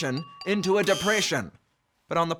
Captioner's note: buzzer noise